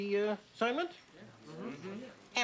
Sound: all agreeing

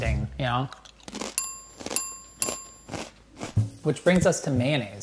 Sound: bell ringing

